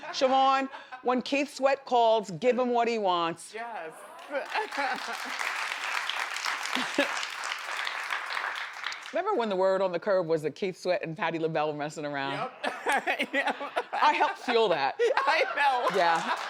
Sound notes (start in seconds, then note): 4.1 audience claps; 12.4 laughs